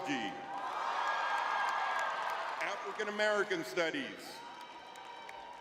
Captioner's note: audience cheering; audience cheering